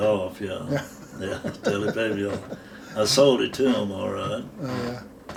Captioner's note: both laughing